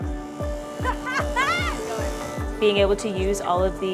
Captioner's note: laughing